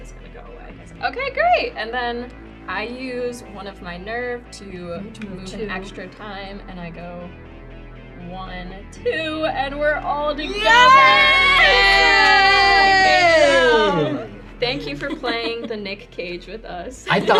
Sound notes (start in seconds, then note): 10.4 group shouts excitedly